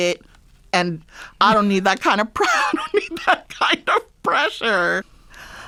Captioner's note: laughter